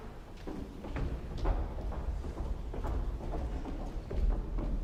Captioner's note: heels tapping